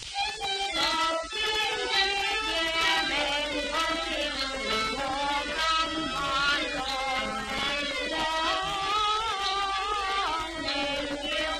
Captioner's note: cuckoos